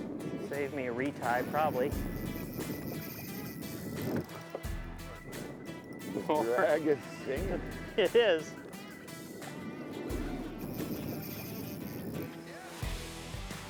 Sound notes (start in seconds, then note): 2.1 fishing rod clicking; 2.2 upbeat country music; 6.1 laughs; 9.5 upbeat country music; 10.6 fishing rod clicking